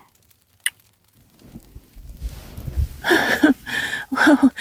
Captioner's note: kissing